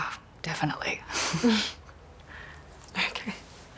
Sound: both chuckle

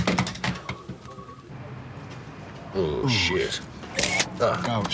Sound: camera clicks

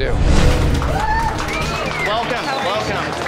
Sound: customers clapping, cheering

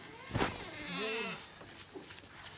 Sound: Ester shudders

